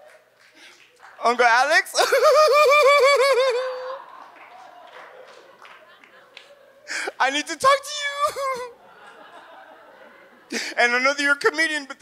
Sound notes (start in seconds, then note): 1.8 sobs; 6.5 sobs; 8.9 audience laughs